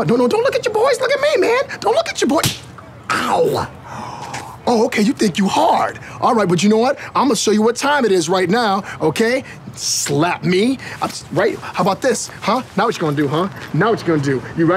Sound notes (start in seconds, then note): 2.3 slapping